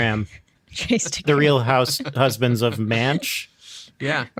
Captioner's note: laughing